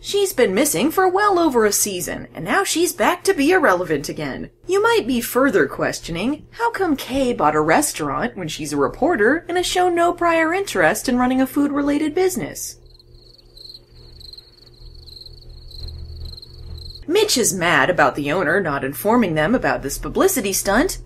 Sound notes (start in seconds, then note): 12.8 crickets chiping